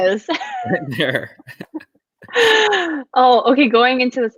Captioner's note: laughter